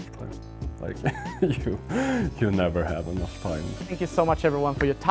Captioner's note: laughs